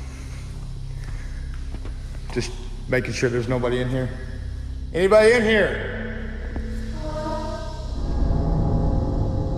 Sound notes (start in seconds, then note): 6.8 strange voice